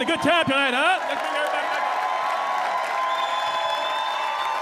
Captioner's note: audience cheering